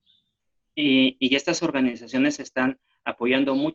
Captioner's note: speaking spanish